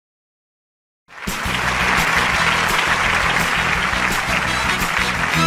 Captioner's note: cheers and applause